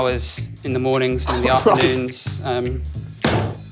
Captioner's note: chuckles